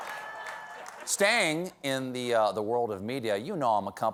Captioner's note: laughter